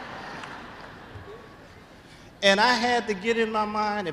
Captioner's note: laughter